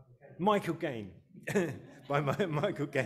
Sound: chuckles; audience laughing

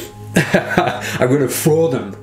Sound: laughs

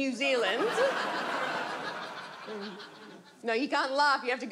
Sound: audience laughs

